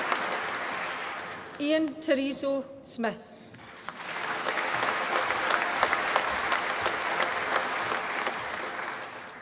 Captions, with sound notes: Ian Tereso Smith. (APPLAUSE)